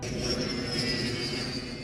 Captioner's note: jet engines